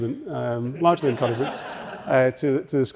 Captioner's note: audience laughing